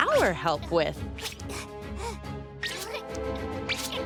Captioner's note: caterpillar noises